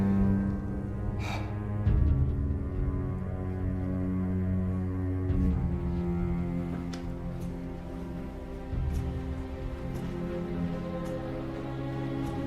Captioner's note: Kevin sighs